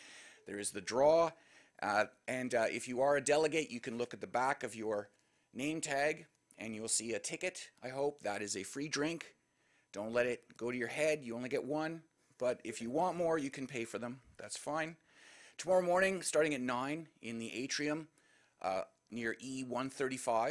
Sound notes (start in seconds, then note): none